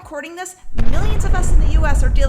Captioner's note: bomb rumbles